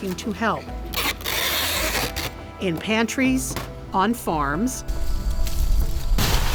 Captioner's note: tape screeches